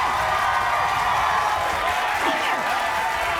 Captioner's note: crowd cheering